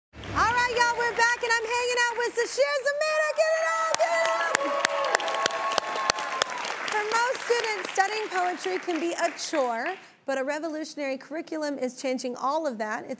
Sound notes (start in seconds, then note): 3.2 audience applauds